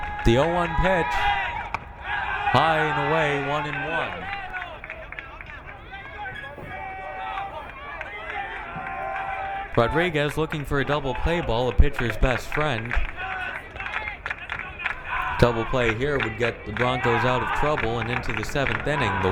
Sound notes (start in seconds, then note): 5.0 crowd cheering